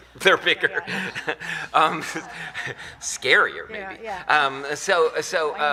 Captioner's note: laughs; laughter